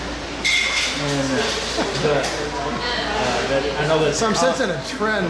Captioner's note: laughing